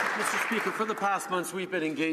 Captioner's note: some Applause